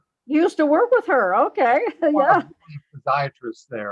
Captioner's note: laughs